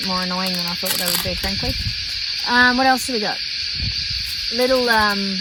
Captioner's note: velcro tearing noise